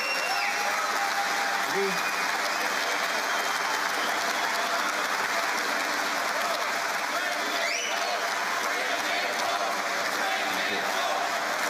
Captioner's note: cheering and Applause; applause